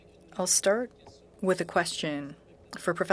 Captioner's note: speaking French